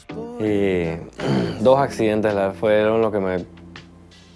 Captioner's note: speaking Spanish